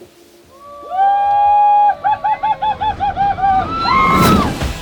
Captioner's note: loud cheering